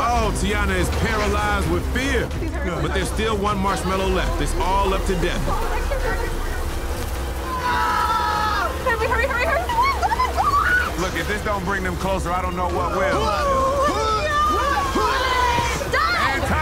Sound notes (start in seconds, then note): 6.9 flies buzzing; 10.6 flies buzzing; 14.7 retching